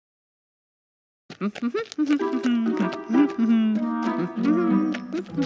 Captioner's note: humming